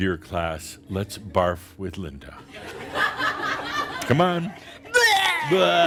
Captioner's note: more laughter